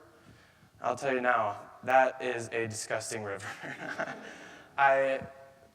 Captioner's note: chuckles